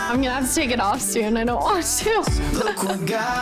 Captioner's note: laughs